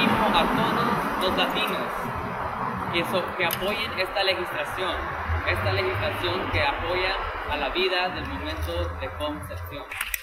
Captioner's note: Spanish